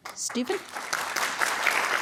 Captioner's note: applause